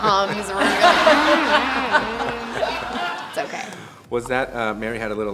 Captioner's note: humming low tones